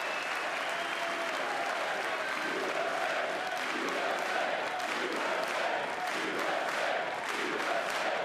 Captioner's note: applause